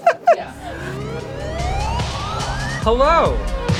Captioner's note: technology bwoop intensifies for new intro